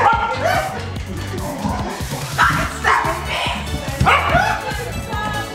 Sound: dog barking

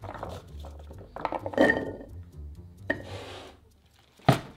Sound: potatoes dropping

